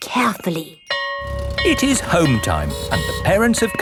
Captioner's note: school bell ringing